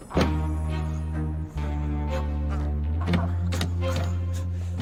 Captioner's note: grunting